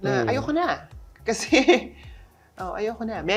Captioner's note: chuckles